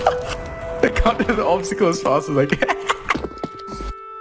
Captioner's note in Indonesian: ketawa